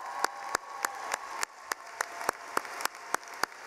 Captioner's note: cheering